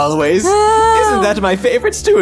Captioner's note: laughs